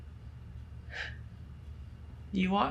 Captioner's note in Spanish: Debra se ríe suavemente